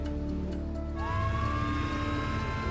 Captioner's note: sirens wailing